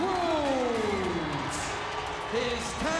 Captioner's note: audience cheers